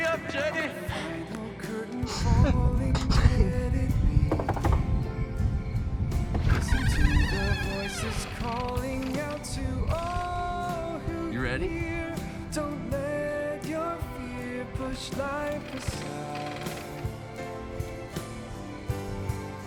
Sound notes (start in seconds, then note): 0.1 singing; 4.2 knocking; 5.9 singing; 12.1 singing